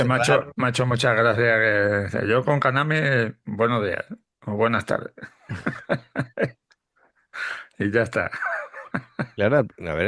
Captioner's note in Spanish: risas